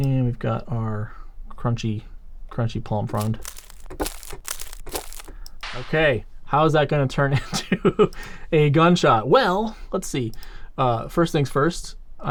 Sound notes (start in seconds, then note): 3.0 palm frond crunching